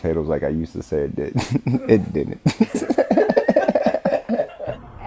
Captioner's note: laughing